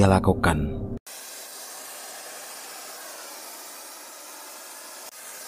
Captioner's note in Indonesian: suara pembakaran